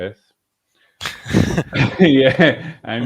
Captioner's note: laughing